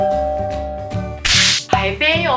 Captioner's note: slapping